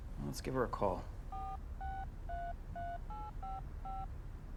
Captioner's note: phone beeping